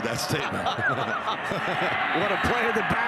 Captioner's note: laugh